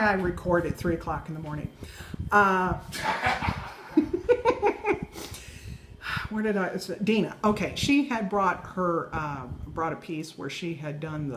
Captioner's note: laughing